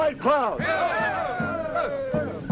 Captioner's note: cheering